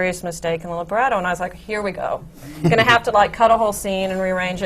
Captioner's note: laughter